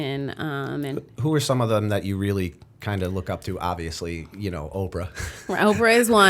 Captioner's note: chuckle